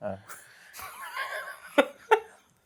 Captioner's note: laughs